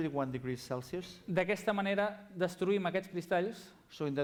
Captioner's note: non-english speech